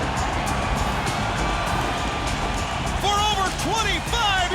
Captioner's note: crowd cheering